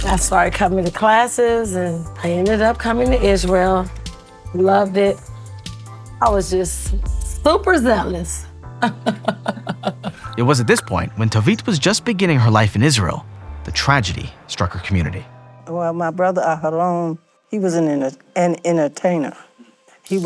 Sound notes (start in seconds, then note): 8.8 chuckles